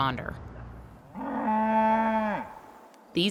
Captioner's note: cow mooing